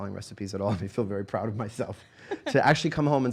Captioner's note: laughing